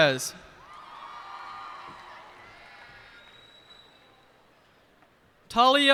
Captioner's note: cheers and applause